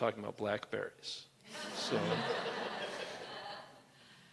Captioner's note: laughter